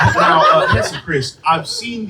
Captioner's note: laughter